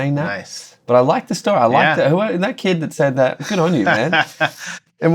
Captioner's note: laughter